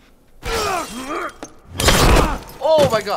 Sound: glass shatters

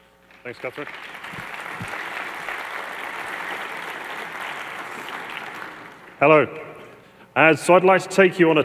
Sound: applause

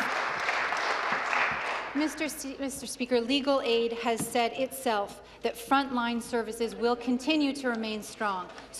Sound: applause

